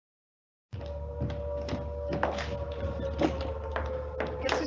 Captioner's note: siren wailing; dramatic music; speaking in foreign language